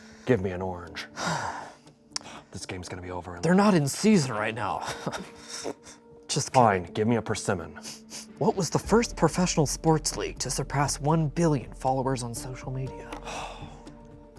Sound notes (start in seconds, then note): 1.1 sighs; 4.8 laughs